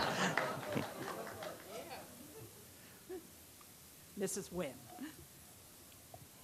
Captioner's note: laughter